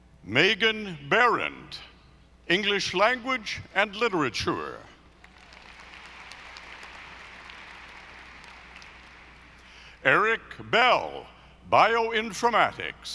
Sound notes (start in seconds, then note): 5.2 audience applauding